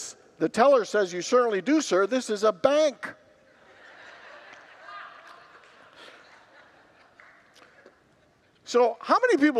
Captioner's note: congregants laugh